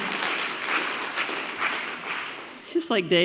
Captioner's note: audience clapping